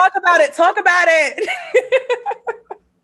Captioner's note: laughter